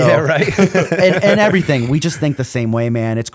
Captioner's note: laughter